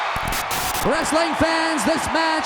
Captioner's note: static hisses